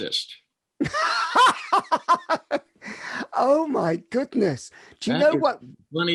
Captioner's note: laughs